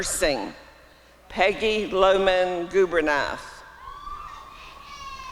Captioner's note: applause and cheering